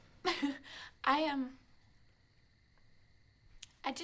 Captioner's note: giggles